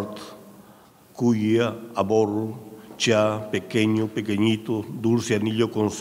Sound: speaking in a foreign language

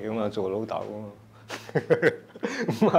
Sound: laughs

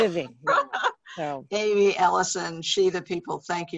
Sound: laughs

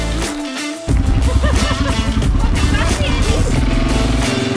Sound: chuckled

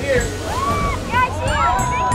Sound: woman yells

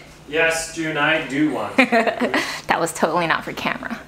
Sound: laughs

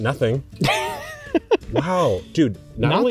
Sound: laughs

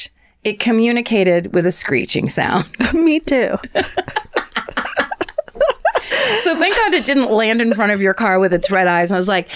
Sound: laughter

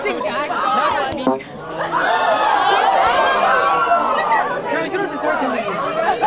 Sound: participants clamoring; electronic tone beeps; participants exclaims

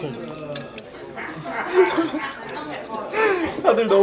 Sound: laughing

